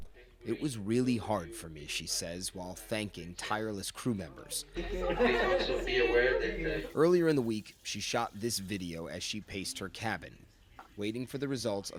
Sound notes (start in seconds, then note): 4.7 chatter